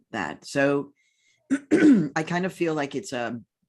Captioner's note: clears throat